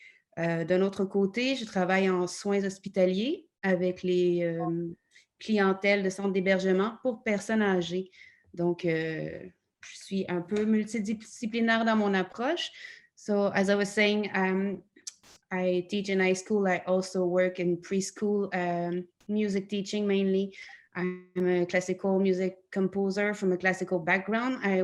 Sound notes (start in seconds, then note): 12.7 in English